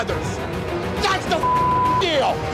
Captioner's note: beep